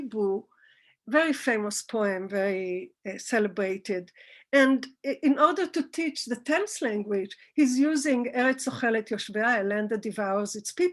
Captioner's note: Hebrew